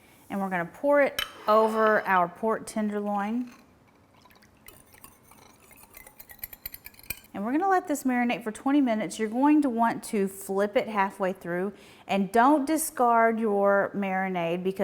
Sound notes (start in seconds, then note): 4.6 whisk clinking